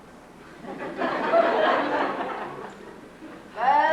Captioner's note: laughter